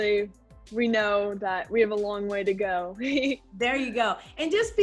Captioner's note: laughing